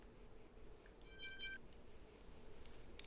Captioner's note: device turning off